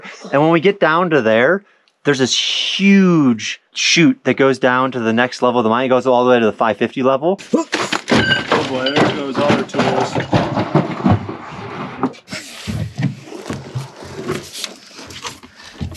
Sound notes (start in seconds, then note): 7.2 groans; 10.1 bang banging; 12.8 footsteps tapping